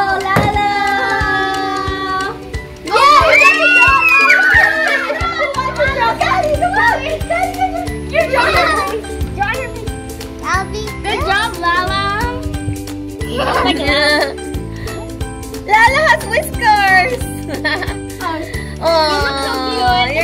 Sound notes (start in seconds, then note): 3.0 screaming; 13.3 laughing